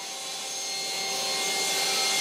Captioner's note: sounds of sawing